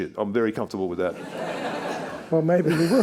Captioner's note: attendees laughing